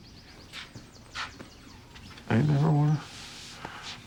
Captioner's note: voice breaking